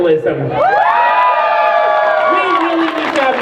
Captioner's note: crowd cheers